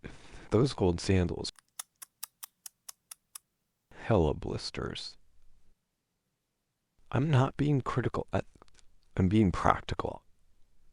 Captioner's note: tsk tsk